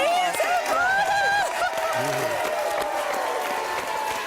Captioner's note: audience cheering